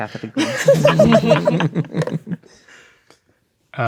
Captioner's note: players laughing